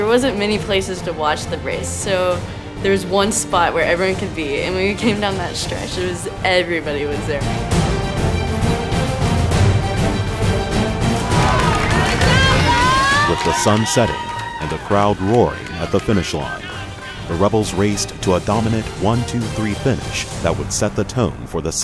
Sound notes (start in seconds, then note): 7.8 intense music; 11.1 cheering